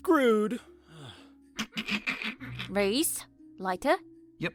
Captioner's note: snickers